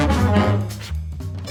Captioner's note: blows